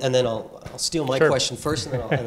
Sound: laugh

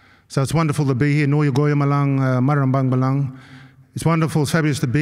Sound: non-english speech

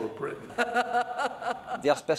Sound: laughter

